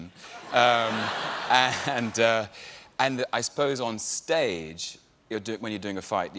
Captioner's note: laughter